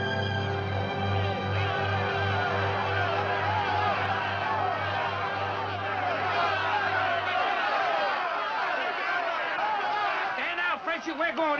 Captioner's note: angry men shouting